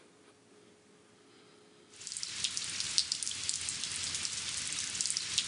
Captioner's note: rain falling